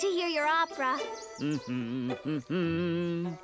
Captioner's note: hums a few bars